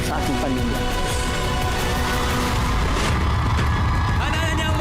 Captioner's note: crowd cheering